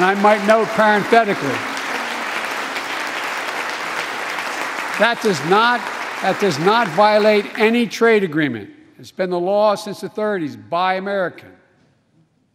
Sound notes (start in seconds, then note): 0.0 applause